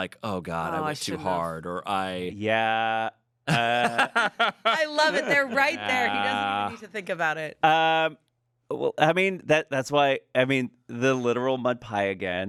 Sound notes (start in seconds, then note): 3.5 laughs